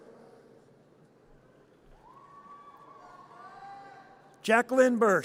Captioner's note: audience cheers